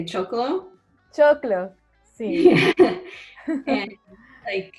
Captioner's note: laughing